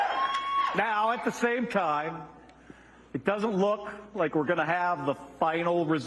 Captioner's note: cheers and applause